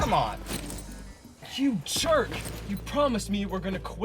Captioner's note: bag shuffling; cheerful music continues